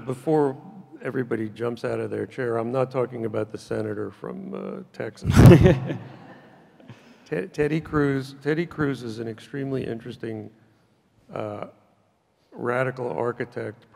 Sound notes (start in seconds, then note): 5.3 and audience laughs in unison